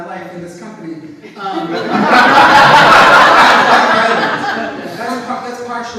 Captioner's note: audience laughs